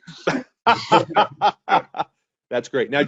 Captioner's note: laughing